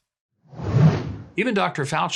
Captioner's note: air whooshing